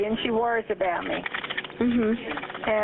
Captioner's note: 911 recording